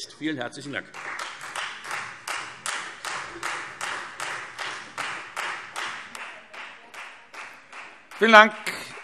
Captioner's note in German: Beifall Freie Demokraten